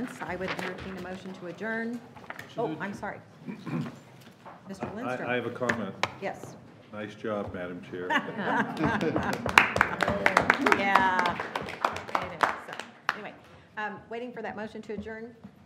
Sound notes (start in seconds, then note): 8.0 laughing; 8.6 audience applauding